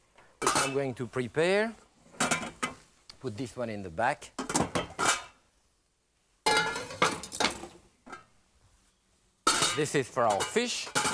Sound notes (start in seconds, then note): 4.5 pans clanking